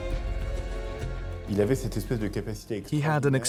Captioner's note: non-english speech